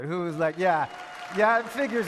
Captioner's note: more of audience cheering